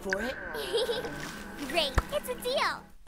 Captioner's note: giggles